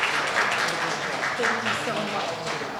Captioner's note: audience applauding